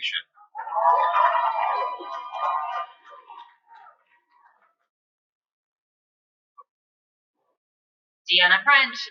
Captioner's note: cheering